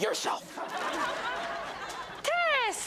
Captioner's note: audience laughs